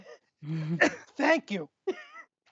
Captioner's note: coughing; laughter